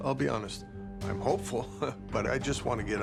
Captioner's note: chuckles